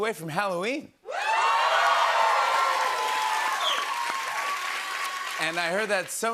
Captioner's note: cheers and applause